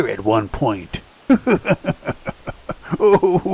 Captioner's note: laughter